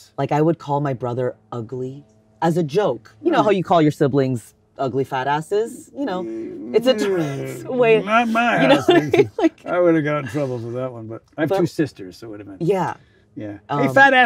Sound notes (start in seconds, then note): 9.2 laughs